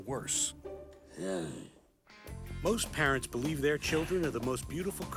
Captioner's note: groans